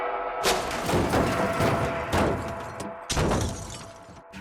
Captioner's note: crashing sounds